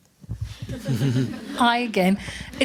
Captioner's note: laughing